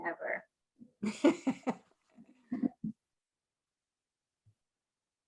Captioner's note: laughing